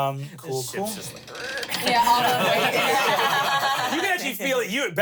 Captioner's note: everyone laughs